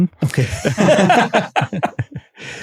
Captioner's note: lachen